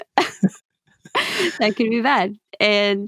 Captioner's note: lough